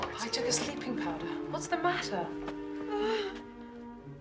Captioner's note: whimpers